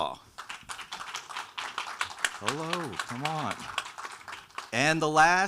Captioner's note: audience applauding